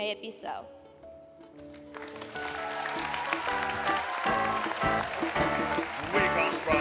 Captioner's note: applause